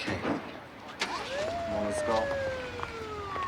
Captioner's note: sirens wailing